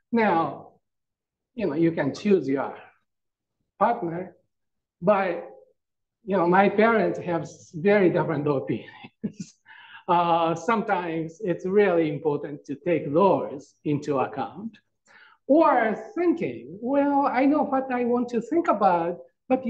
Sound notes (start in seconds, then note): 8.9 chuckles